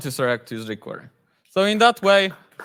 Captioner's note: audience clapping